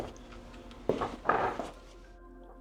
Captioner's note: door opening